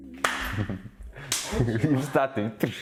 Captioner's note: slap